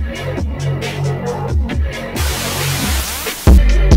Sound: a myriad of static

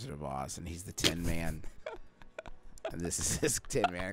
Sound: snickering

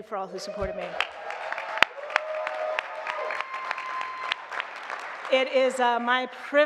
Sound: audience clapping and cheering

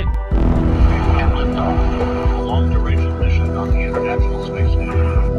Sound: announcement over intercom

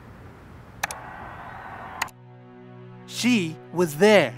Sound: remote clicks

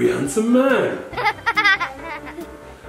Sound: laughter

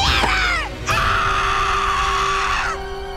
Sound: screaming

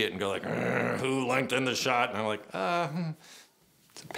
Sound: grоwls

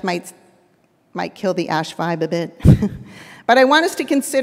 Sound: laughs

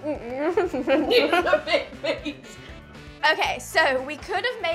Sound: laughs

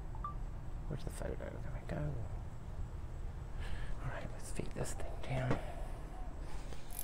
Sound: phone sound; bicycle sounds

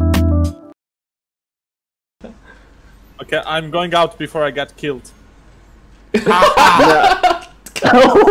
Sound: laughs

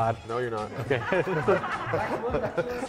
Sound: all laughing

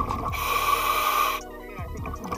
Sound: breathing

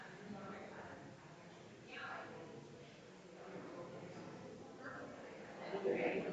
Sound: people chattering distantly continues

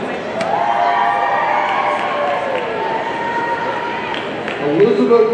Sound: audience cheering

